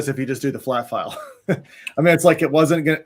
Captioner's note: chuckling